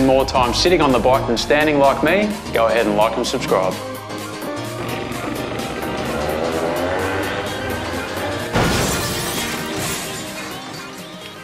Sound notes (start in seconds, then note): 4.5 2-Stroke sounds